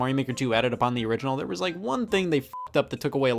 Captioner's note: beep